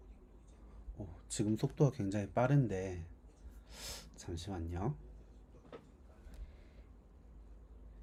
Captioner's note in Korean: 콧방귀